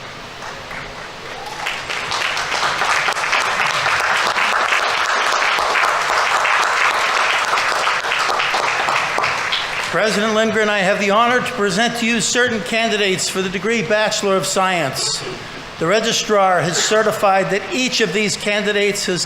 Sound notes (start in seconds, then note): 0.3 audience applauding; 0.4 audience members cheering